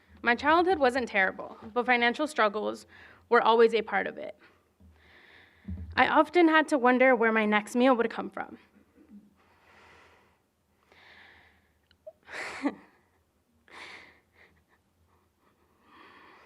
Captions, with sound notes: My childhood wasn't terrible, but financial struggles were always a part of it. I often had to wonder where my next meal would come from. [SOBBING]